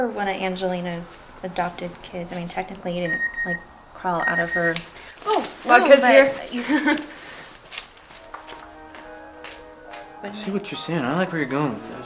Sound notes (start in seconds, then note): 4.2 phone beep